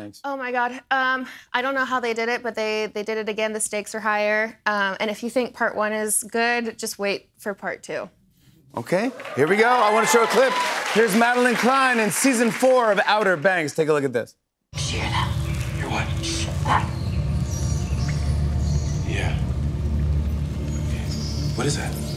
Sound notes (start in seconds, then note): 16.2 rats squeaking; 21.9 rats squeaking